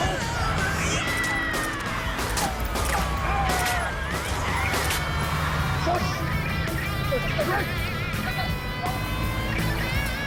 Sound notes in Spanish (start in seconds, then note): 0.1 Disparos